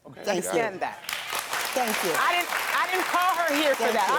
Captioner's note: audience clapping